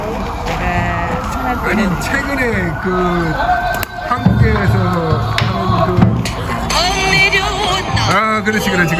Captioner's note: A tiger cries